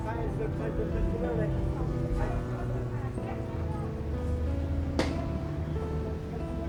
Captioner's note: mellow music; people chattering